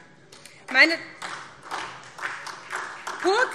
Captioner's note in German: Beifall SPD